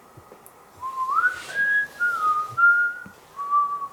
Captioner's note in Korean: 휘파람 부는 소리